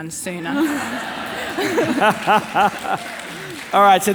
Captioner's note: all laughing